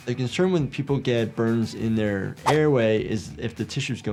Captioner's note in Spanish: none